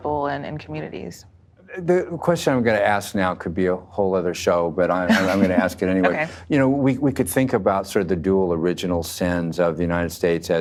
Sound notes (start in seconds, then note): 5.0 laughs